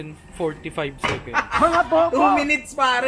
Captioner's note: laughs